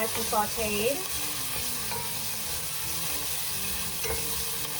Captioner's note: sizzling